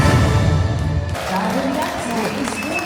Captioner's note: audience applauding